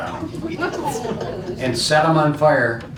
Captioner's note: laughing